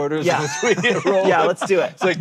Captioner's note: group laughing